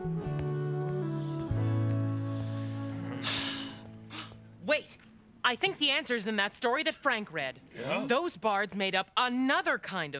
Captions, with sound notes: ( all sigh ) Wait, I think the answer is in that story that Frank read. Those bards made up another kind of poem